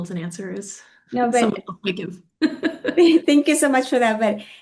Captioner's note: both laughing